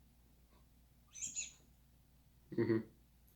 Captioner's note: squeak